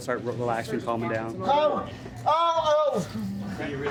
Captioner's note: yelling